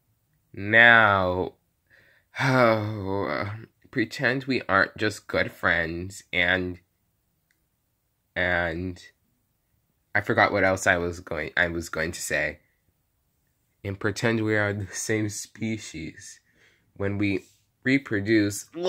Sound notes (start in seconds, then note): 2.0 sigh